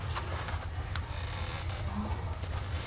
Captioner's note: creaking ladder